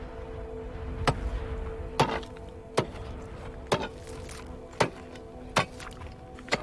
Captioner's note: shovel hitting salt flat